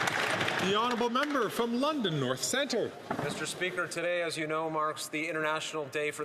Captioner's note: some Applause